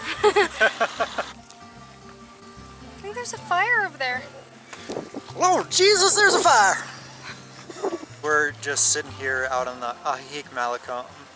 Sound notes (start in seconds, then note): 0.0 laughter; 4.5 in a southern accent